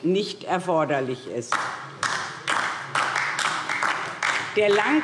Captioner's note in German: Beifall DIE LINKE